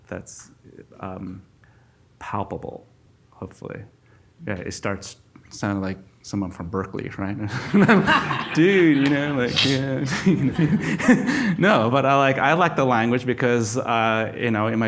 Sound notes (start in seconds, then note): 7.5 audience laughs; 11.4 laughs